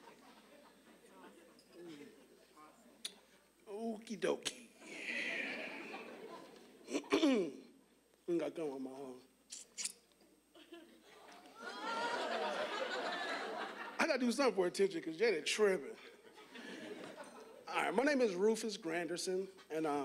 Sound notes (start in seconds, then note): 0.0 audience laughing; 4.9 audience laughing; 6.9 clearing throat; 11.5 audience laughing; 16.1 audience laughing